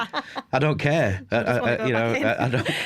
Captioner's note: laughter